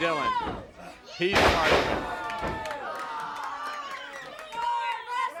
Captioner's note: mat shudders